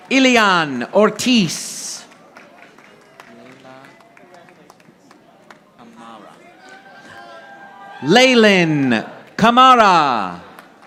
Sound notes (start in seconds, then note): 2.0 audience applauding